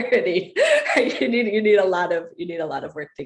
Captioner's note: laugh